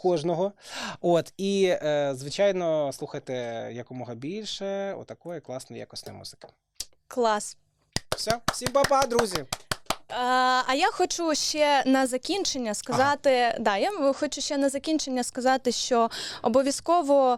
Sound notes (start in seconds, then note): 7.9 claping